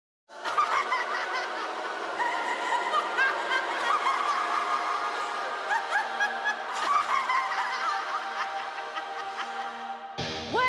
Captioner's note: laughter